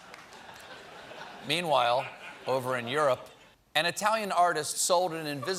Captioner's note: laughter